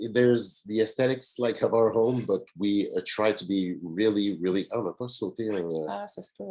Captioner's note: French language